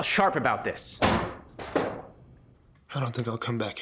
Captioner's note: door bangs